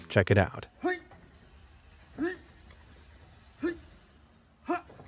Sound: grunting

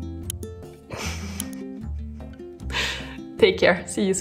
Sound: chuckles

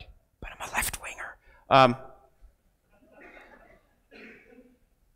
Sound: crowd laughs

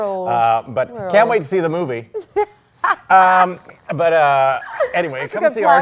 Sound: laughs

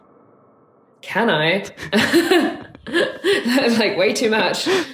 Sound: laughing

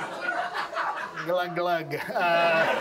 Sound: audience laughs

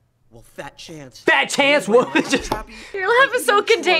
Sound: laughs

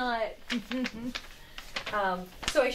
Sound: artist giggles

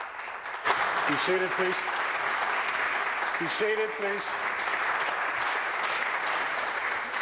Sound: applause

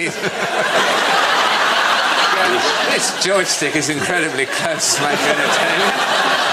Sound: laughter

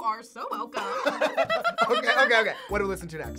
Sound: both laugh

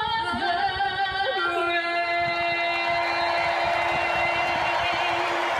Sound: crowd cheers and applause

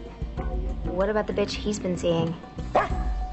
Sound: barks

